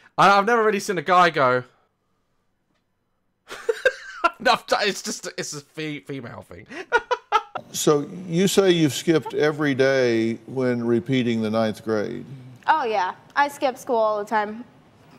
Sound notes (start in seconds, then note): 3.3 laughs